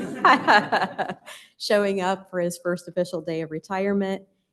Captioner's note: laughter